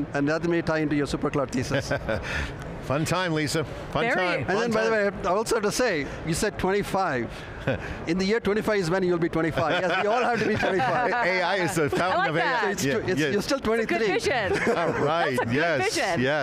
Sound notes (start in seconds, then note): 2.5 laughing; 9.6 everyone laughing